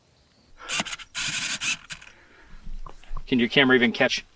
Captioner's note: camera buzzing